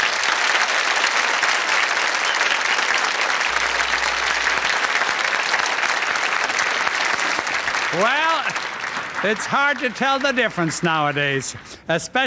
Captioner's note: applause